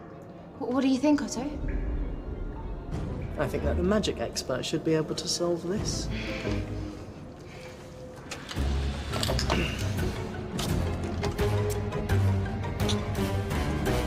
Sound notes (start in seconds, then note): 9.3 grunts